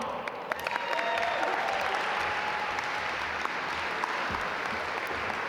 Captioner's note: audience applaud